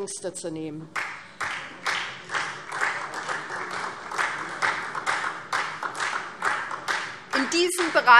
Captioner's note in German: Beifall SPD